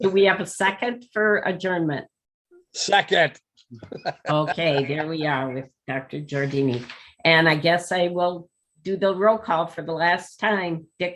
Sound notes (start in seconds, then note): 3.7 laughs